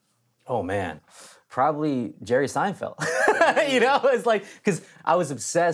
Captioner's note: laughs